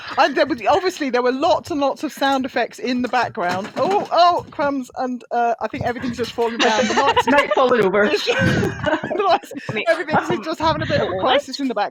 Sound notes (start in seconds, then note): 8.2 laughter